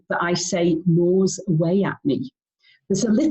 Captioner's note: speaking in foreign language